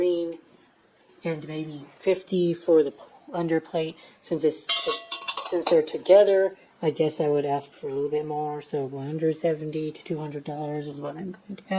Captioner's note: clank